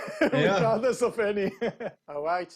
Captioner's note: laughs